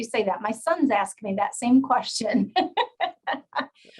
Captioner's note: laughs